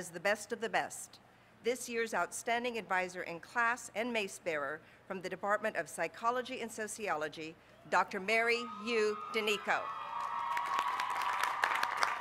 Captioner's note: applause